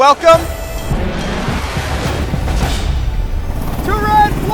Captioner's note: jet engines roaring